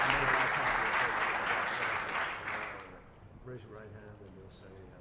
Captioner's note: applause